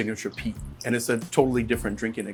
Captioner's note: whiskey pouring